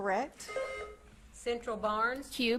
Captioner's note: buzzer beeps